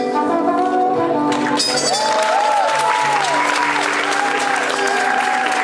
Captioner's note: audience applauding